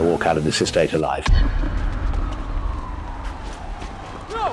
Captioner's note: sirens in the background